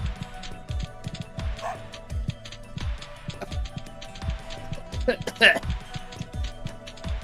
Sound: cough cough

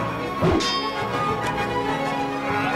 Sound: metal clanging

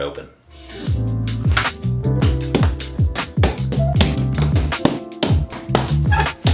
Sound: ambient music; hammer thuds

